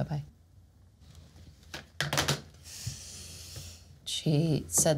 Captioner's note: sighs